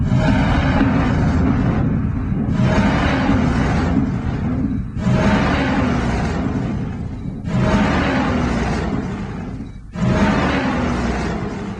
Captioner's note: distorted noises